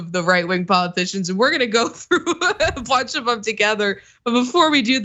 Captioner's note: laugh